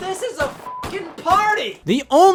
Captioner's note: beep